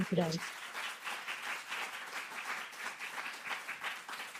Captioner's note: applause